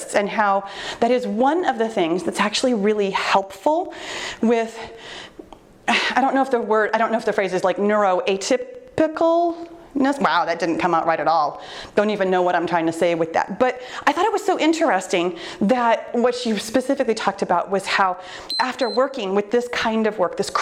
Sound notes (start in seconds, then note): 18.4 timer beeps